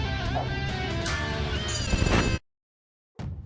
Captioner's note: clanging sound